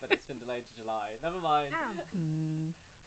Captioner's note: laughs